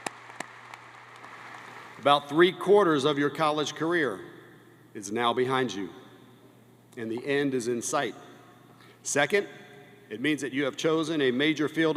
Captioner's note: applause